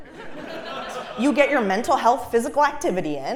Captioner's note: laugh